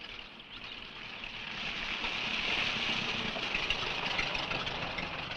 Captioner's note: engine rumbling